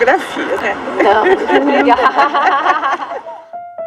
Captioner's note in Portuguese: risadas; Piano suave